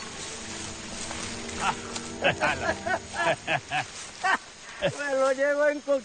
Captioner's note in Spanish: Risas